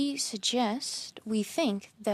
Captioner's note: speaking French